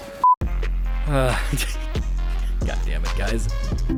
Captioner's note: laughs